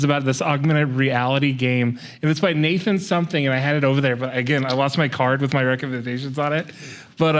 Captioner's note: none